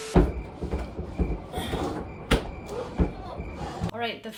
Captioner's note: cricket chirping